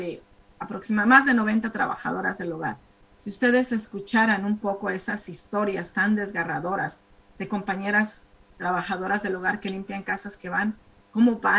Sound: speaking spanish

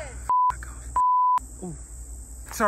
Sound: beep

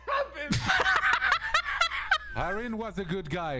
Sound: laughing

